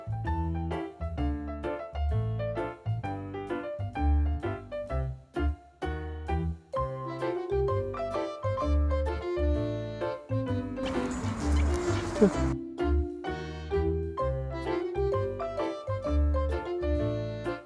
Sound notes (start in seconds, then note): 10.8 smoll woof